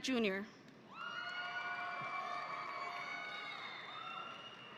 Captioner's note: audience cheering